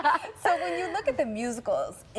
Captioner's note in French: laughter